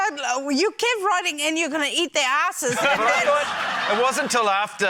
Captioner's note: laughter